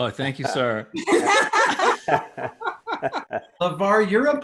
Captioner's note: laughing